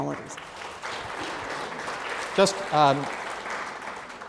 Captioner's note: applause